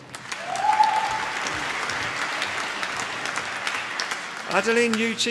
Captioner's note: applause